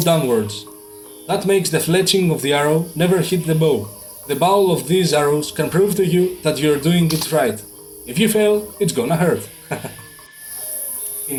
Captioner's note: laughs